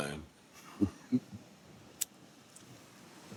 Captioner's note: chuckles; lighter clicks